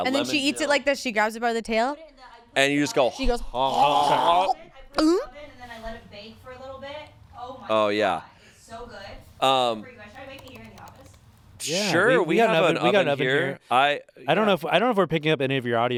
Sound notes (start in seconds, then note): 3.6 retching